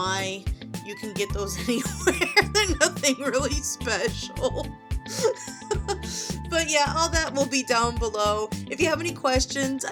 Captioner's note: laughing